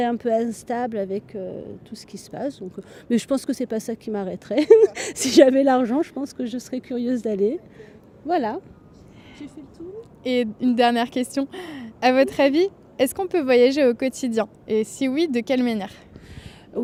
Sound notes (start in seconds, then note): 4.5 laughter